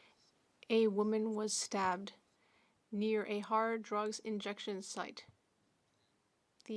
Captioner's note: speaking French